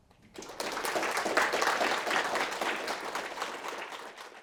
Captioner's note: audience applauding